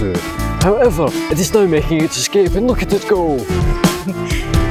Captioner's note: laughter